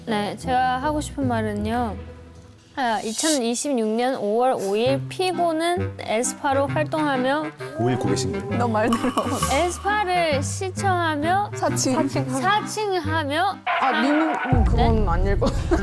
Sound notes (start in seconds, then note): 7.7 confused sound effect; 13.7 stopping sound effect